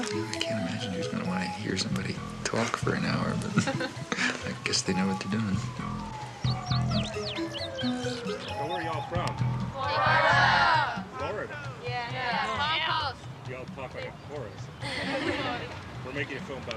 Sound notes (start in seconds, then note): 7.0 birds twittering; 7.0 sirens wailing; 14.8 students laughing